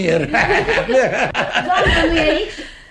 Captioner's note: laughs